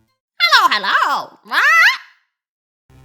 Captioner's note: squawk